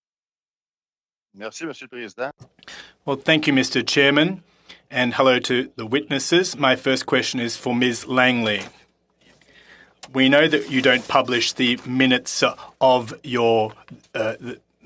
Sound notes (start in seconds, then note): 8.3 speaking French